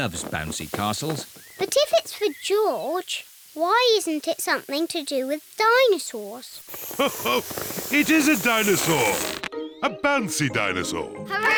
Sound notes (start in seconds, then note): 6.8 laughs